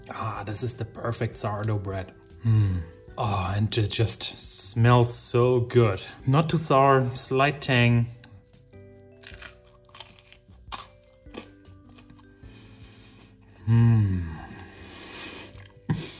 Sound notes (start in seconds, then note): 8.6 bread crunching